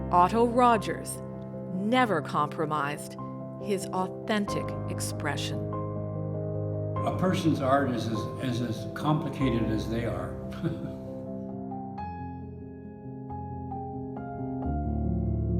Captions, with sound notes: Otto Rogers never compromised his authentic expression. “A person’s art is as complicated as they are.” (laughs)